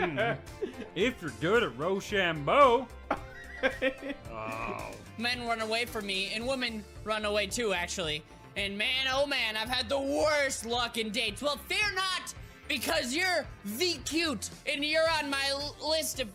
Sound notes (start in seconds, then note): 3.2 keeps laughing